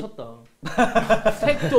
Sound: laughing

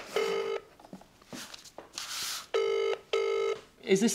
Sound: phone rings

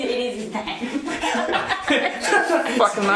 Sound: woman laughing

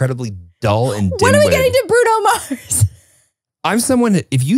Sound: laughs

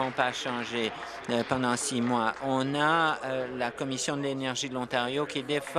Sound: applause

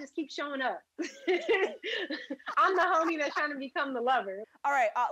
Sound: laughter

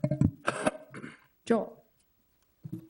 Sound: man coughing

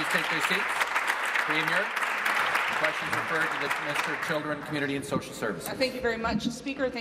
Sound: applause

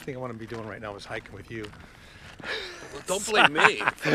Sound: laughs

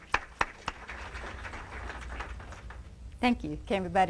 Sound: applause

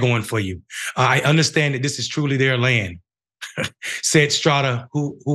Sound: laugh

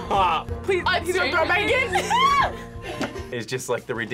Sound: screams

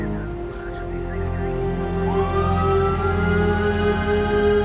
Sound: siren wails

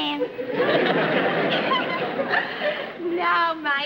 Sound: giggles

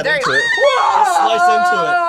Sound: screams

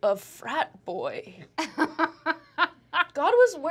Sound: laughs

